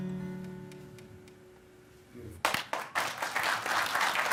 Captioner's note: applause